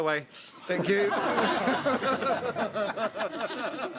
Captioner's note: all laughing